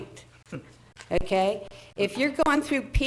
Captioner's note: board members chuckling